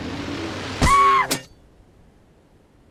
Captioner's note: shrieks femininely